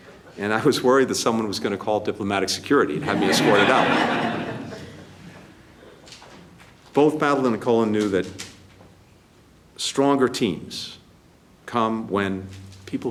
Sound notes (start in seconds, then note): 3.0 laughter